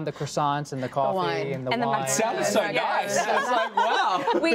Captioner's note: laughter